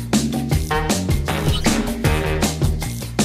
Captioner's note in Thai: เสียงกดปุ่ม